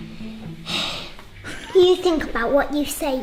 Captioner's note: sighs